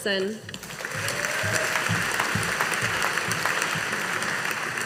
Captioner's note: audience applauding